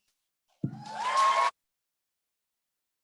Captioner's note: applause